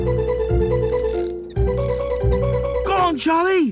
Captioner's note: clicking